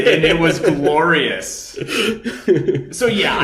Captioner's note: laughing